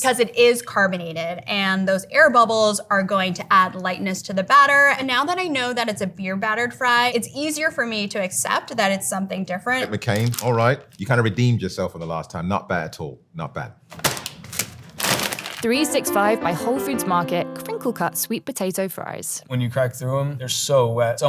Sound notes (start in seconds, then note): 13.9 fries pack thudding; 13.9 plastic crinkling